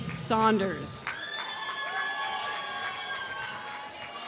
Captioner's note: applause